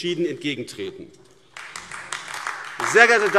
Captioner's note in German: Beifall AfD